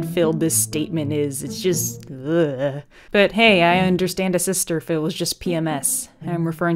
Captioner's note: eugh